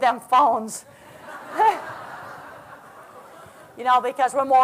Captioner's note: laughter